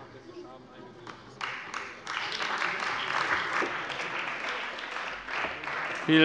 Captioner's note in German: Beifall bei der CDU und dem BÜNDNIS 90/DIE GRÜNEN